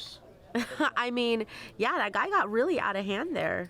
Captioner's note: chuckling